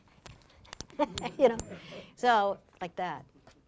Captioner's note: laughing